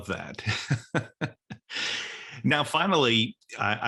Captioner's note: laughs